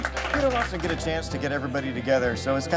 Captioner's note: audience applauding